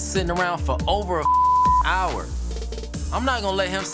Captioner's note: beep